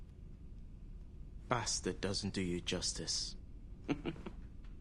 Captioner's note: WHlTE GlGGLES